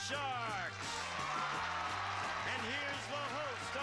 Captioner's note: audience cheering